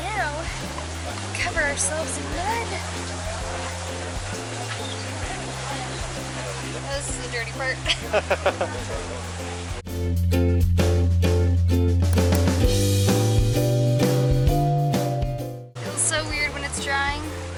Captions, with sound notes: - Now, we cover ourselves in mud. Oh, this is the dirty part. (laughing) (upbeat music) Feels so weird when it's drying.